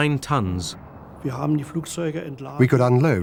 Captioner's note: speaking german